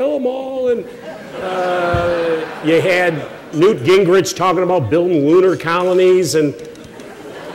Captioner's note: laughter